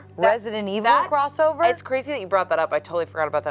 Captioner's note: none